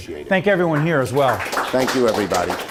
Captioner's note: applause